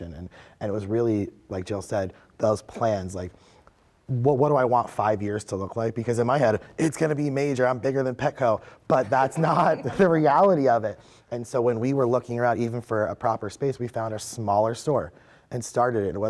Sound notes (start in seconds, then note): 9.1 laughing